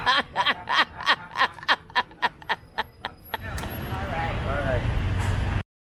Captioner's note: traffic noise